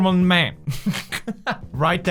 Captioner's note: laugh